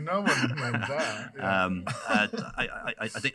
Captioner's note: laughing